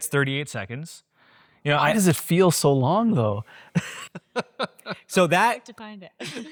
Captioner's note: laughs